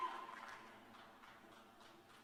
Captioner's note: cheers and applause